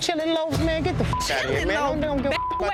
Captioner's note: beep